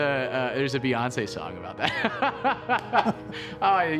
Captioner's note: laughs